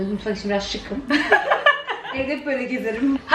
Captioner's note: laughing